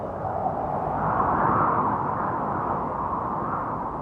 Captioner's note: wind howling